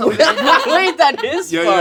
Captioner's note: laughing